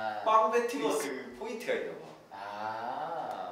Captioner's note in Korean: 열변